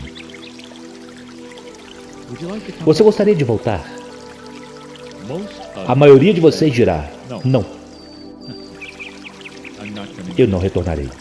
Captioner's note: laughs